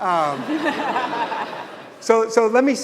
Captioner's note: audience laughing